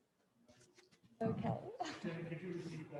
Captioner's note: laughs